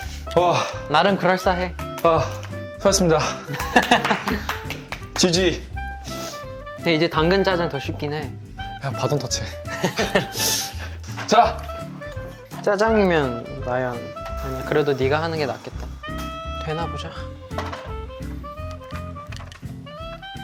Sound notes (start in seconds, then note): 3.5 clap clap clap